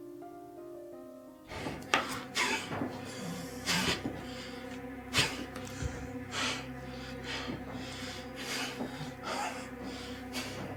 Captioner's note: Gerry's labored breathing and grunts